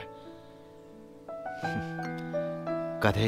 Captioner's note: Scoffs